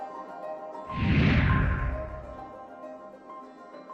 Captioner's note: air whooshing; upbeat music continues